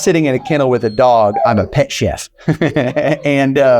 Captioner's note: chuckling